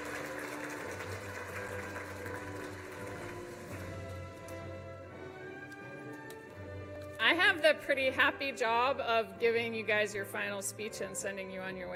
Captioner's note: applause